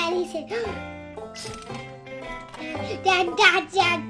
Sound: gasp

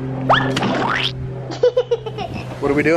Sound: whistle blows; bucket splats; laughs

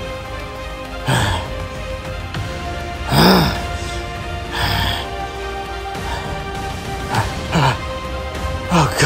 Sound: Miller grunting

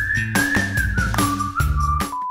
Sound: beep sound

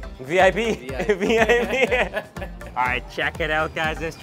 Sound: laughs

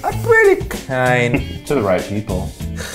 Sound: laughs

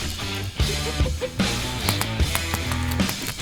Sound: laugh

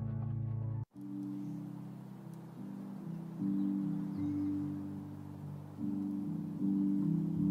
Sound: birds chirping; uplifting instrumental music

